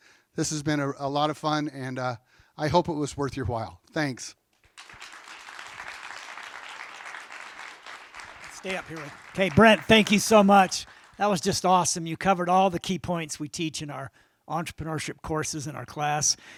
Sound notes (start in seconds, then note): 4.6 applause